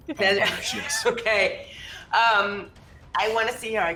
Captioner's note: chuckles